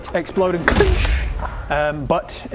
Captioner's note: dink!